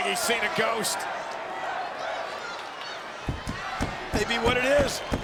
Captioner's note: crowd murmuring